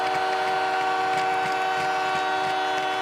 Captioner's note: horn